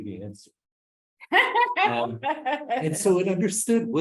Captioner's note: laughs